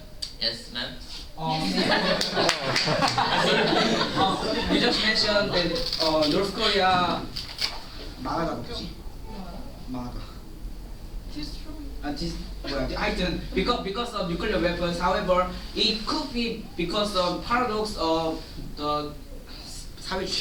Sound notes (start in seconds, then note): 1.5 laughter; 8.8 speaking Korean; 18.9 speaking Korean